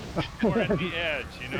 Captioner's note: laughs